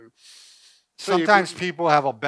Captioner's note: inhaling